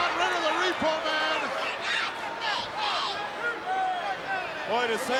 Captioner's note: crowd yelling